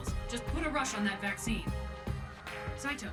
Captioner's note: none